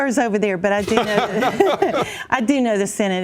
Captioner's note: laughter